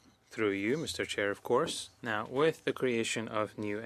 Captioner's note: speaking French